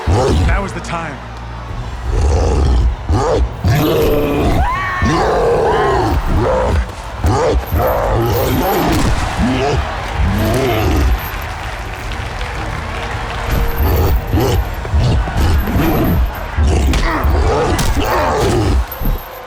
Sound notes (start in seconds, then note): 4.3 screams; 6.8 cyclops groaning; 9.0 applause; 13.4 cyclops growls